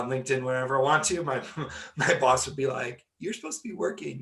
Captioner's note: laughing